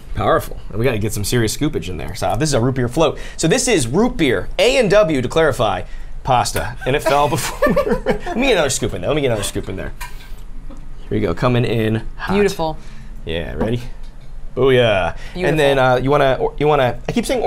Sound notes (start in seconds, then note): 7.1 laugh